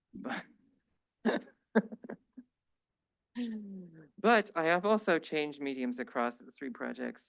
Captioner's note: laughs